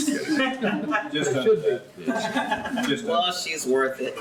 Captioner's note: laughs